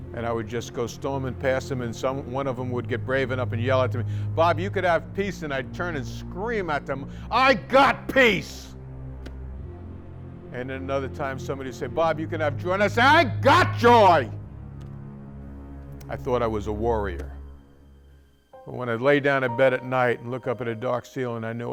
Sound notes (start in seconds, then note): 9.9 yells; 15.4 yells